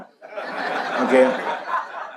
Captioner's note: audience laughs